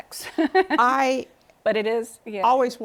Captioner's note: laughter